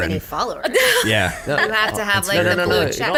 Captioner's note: laughs